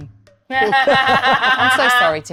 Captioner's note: Mayanna cackling